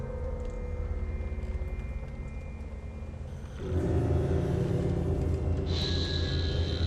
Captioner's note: rain pattering